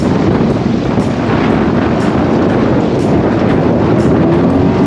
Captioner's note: wind whooshes